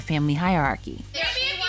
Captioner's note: yelling